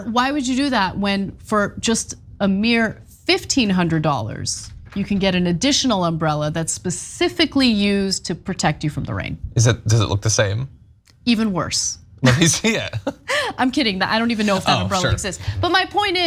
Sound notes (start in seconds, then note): 12.2 laugh